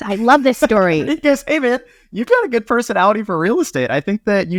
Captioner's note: laughing